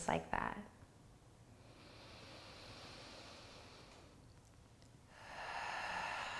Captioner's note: breathes deeply